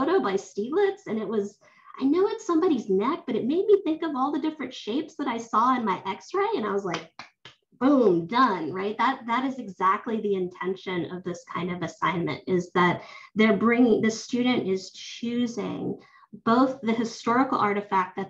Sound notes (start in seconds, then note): 6.8 claps hands